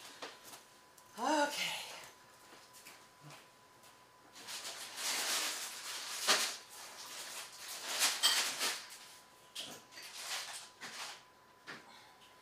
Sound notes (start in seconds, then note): 4.5 rattling paper